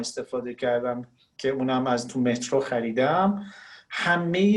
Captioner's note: speaking Farsi